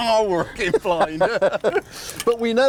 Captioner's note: both laughing